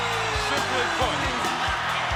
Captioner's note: crowd cheering